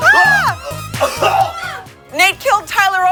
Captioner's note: chokes; coughs